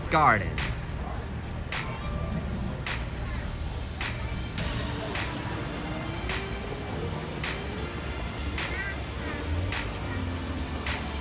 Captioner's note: walking